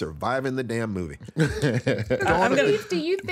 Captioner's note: laughs